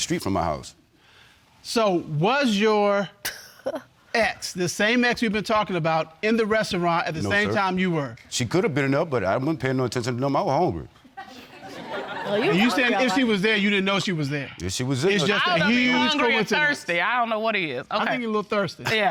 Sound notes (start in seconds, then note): 11.2 audience laughing